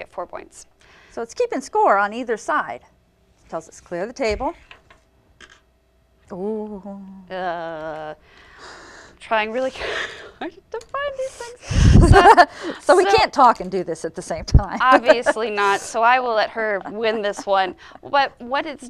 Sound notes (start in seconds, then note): 11.8 laughter